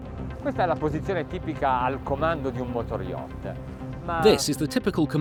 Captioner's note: speaking foreign language